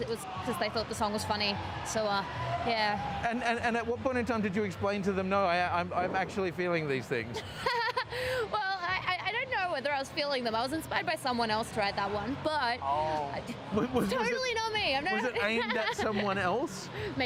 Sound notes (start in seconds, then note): 7.4 laughs